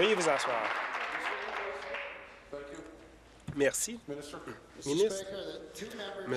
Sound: applause

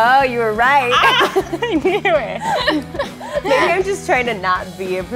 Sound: laughing

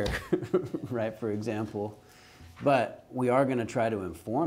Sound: chuckles

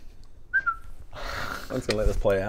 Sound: whistle

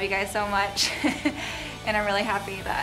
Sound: laughs

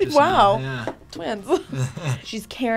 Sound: laughs

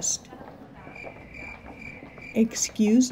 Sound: crickets

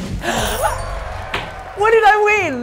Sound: bluesy music; gasps

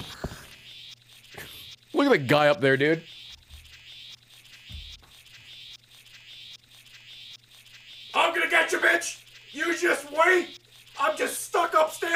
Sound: laughs

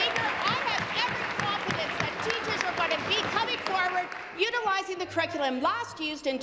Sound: applause

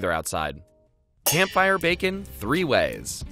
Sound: pans clanging

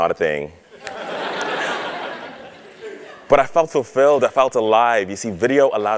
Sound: laugh

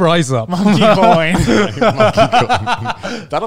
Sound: laughing

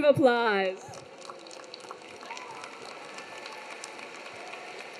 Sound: everyone clapping

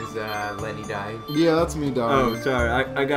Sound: beep beep; beep beep

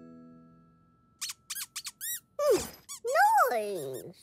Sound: squeaking

